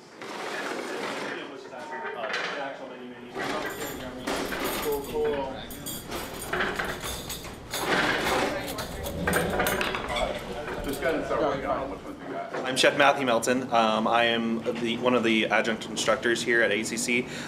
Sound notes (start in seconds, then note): 3.3 utensils clanging loudly